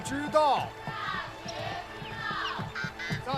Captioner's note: children reciting